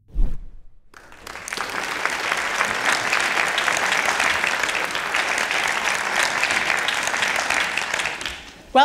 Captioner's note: applause